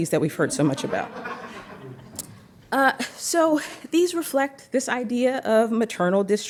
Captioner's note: laughter